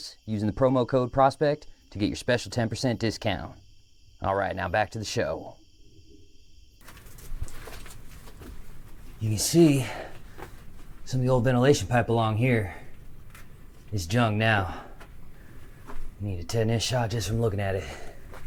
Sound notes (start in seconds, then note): 5.4 insects chittering; 6.6 footsteps crunching; 6.6 hiking gear rattling